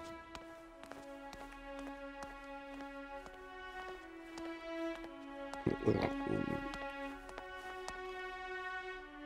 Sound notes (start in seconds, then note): 5.6 grunting